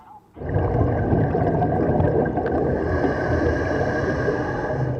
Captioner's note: breathing